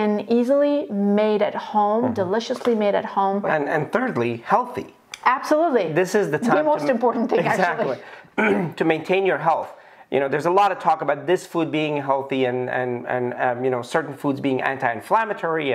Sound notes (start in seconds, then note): 8.3 clears throat